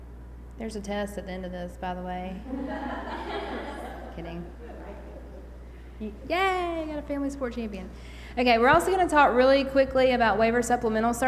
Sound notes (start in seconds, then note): 2.4 laughter